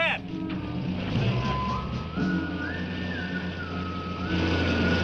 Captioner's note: engine revving